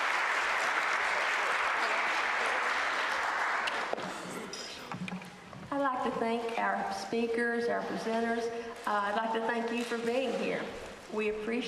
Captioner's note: applause